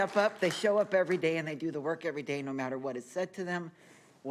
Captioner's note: applause